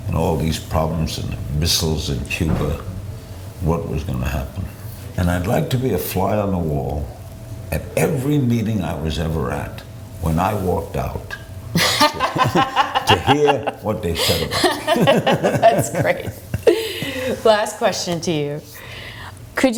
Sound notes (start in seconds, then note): 11.8 laughs